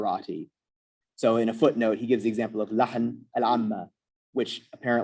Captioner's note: non-english